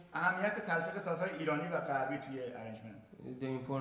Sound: speaking in farsi

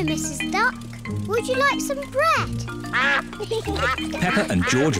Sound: ducks quack

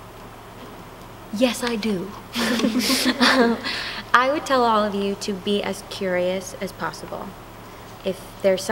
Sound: laughter

